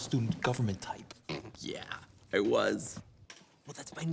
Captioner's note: snorts